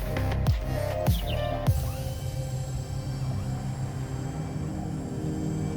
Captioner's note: servos whirring